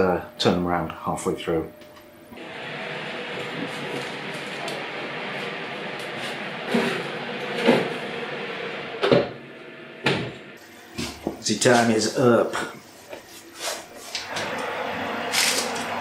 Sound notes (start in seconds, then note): 2.8 oven roar; 7.6 clunk; 9.0 bang